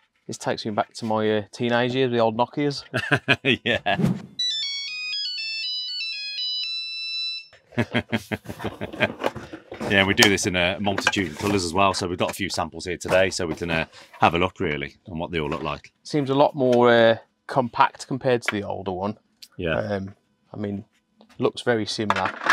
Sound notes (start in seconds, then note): 2.8 chuckling; 4.4 ringtone beeping; 7.7 chuckling